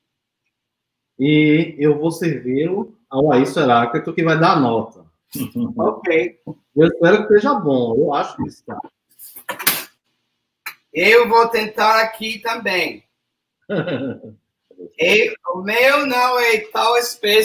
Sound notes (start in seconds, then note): 1.1 speaks portuguese; 6.7 speaks portuguese; 13.7 laughs; 14.9 speaks portuguese